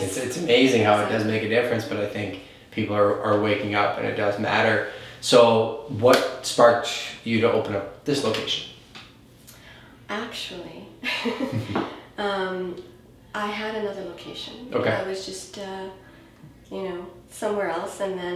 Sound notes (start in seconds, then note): 11.1 laughs